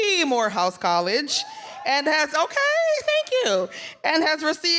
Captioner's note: audience cheering